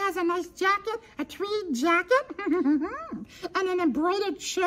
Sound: giggles

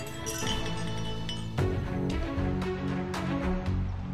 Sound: glasses clinking

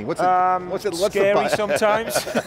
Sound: men laughing

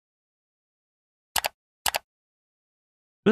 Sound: mouse clicks

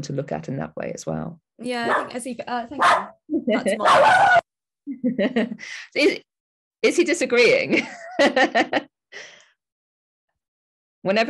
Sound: dog barks

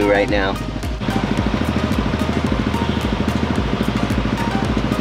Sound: motorbike engine running

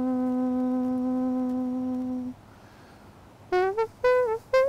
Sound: imitating trumpet playing

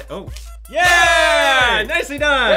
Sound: yells in excitement

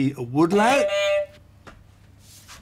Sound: beep beep

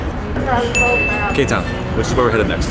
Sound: ding

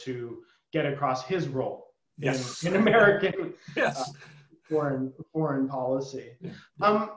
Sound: laughter

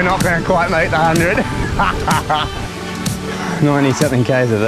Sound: laughs

